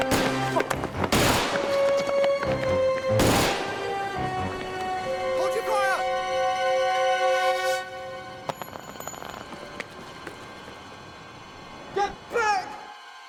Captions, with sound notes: (gun firing) Hold your fire. (metal clanking) Get back!